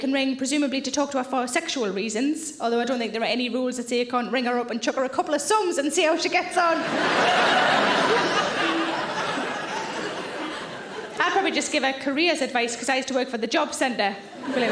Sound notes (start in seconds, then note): 6.7 audience laughing